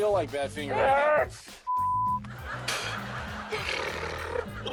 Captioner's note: beep